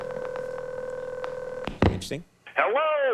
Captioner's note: dial tone rings